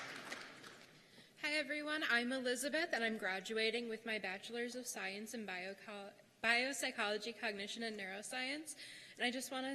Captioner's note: cheers and applause